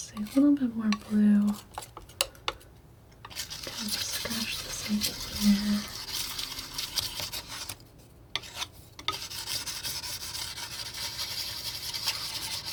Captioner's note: scratching